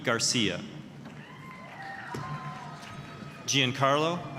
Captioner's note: applause, cheering